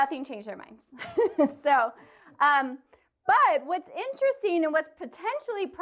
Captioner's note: laughter